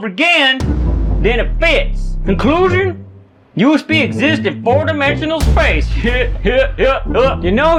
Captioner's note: redneck laugh